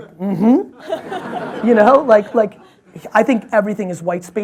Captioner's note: audience laughs